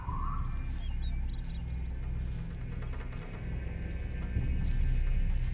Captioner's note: wildlife sounds